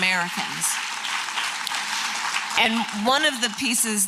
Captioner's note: applause